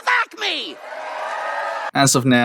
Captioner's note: audience cheers